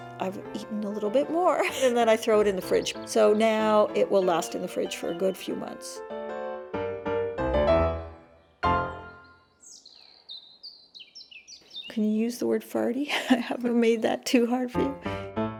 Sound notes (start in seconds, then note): 8.8 birds chirping